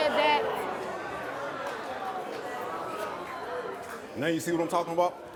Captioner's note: disapproving crowd noise